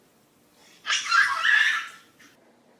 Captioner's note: screamy giggling